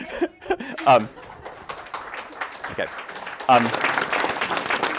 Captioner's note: audience applauding